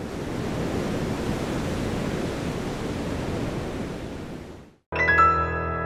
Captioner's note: surf roaring